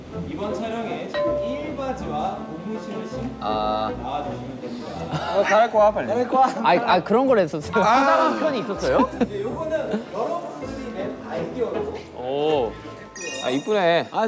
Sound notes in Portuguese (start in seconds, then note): 5.4 Chorando